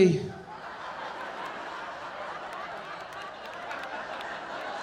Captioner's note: audience laughing